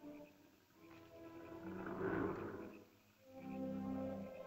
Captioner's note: soft music; animal growls; ominous music